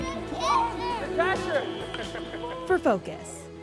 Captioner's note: cheering